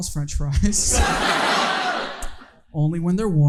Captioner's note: audience laughing